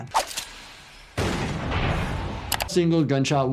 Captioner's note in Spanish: Disparo de escopeta